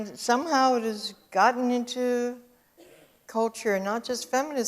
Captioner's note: audience cough